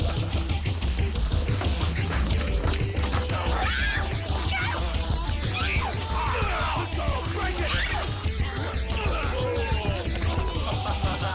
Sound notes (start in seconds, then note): 0.2 energetic rock music; 3.5 Jodie screaming; 6.1 grunting; 8.9 screaming